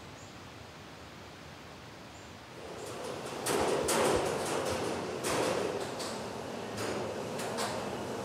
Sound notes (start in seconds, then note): 2.6 metal rattling